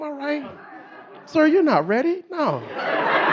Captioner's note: audience laughing